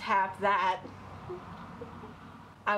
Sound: laughs

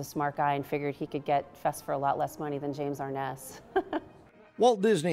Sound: laugh

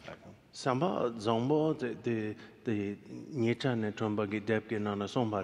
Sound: speaking in foreign language

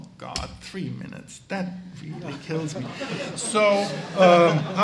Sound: audience laughs

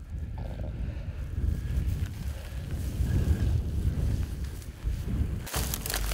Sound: wind blowing

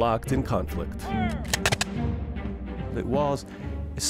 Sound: gunshots

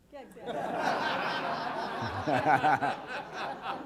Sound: laughter

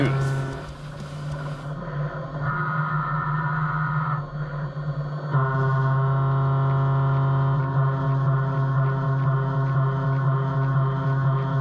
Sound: machining noises

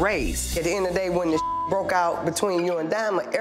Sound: beep

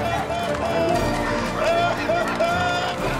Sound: continues sobbing

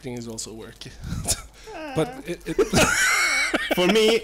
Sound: laughs a lot

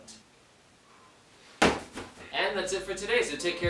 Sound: kicking bag

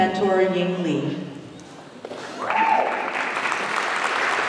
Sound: applause

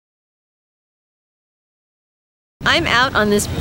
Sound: silence

